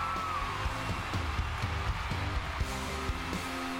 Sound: cheers and applause

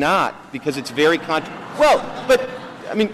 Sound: laughter

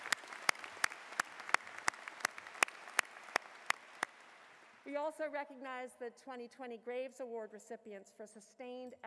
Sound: applause

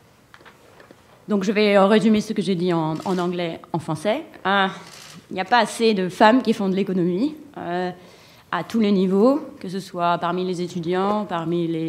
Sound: speaking french

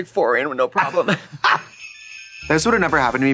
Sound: Trixie giggling; sleigh bells jingling

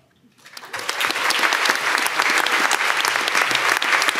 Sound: audience applauding

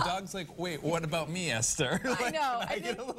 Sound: laughter

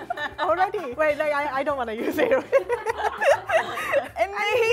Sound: laughs; both speaking Amharic

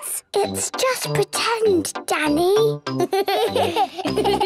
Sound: whispers; giggles

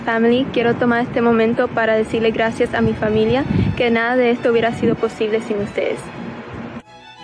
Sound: non-english speech

